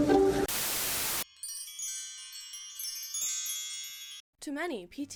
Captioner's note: chimes